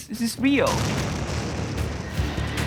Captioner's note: explosion